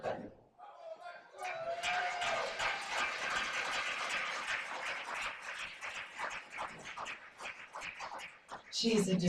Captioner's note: applause